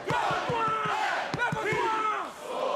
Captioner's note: fans chanting